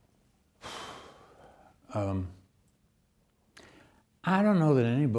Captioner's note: lecturer exhales